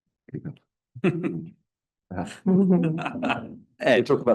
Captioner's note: laughs